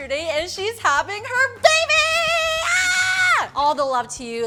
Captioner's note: excited yell